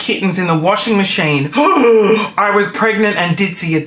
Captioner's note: gasping